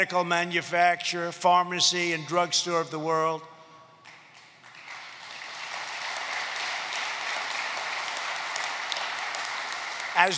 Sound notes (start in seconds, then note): 4.0 applause